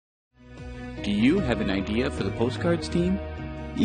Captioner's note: voiceover